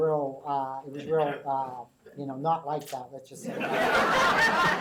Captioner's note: laughter